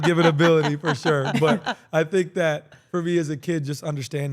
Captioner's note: laugh